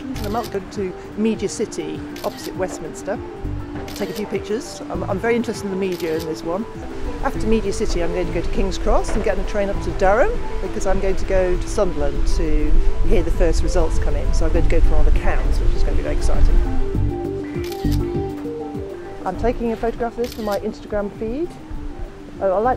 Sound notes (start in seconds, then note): 17.6 camera snaps